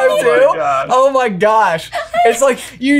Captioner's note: laughing